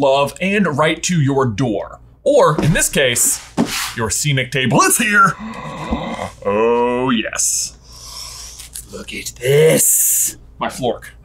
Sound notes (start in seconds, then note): 5.3 gasps